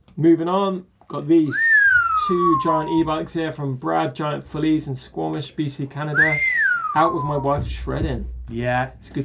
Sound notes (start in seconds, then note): 1.4 whistling; 6.1 whistling